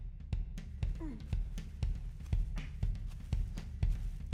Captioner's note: grunts